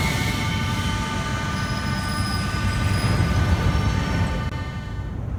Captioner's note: opening doors of the arriving train